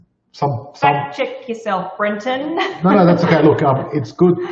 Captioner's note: laughs